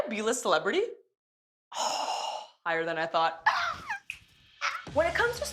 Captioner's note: laughs